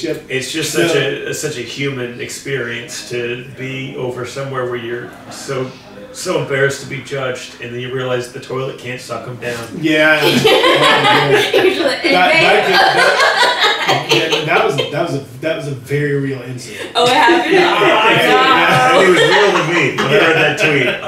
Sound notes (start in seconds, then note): 10.2 laughing loudly